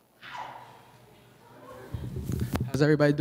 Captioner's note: audience member cheers